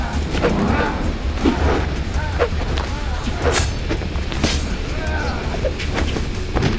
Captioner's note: Naga groaning; whooshing